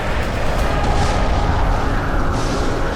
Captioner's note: explodes